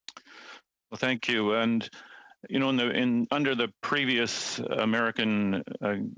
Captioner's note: speaking French